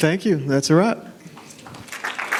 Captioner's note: applause